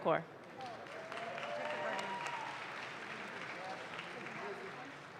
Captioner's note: audience claps